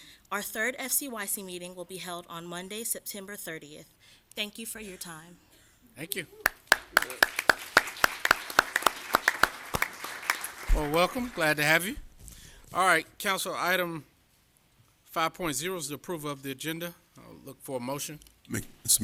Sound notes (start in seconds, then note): 12.6 applause